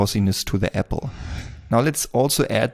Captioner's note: air wooshing